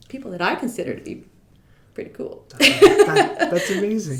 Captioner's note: laughing